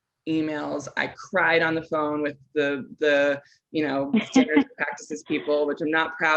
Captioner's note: chuckles